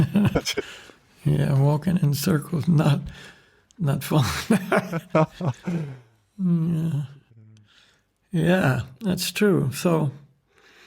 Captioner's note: laughs